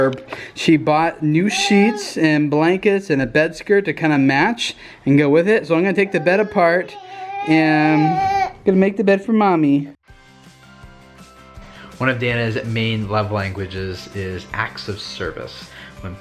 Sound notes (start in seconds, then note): 7.7 child crying